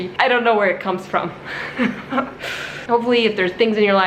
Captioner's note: chuckles